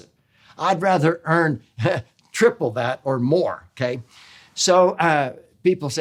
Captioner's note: chuckles